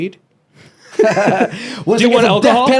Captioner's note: both laughing